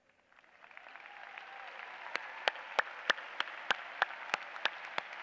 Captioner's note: applause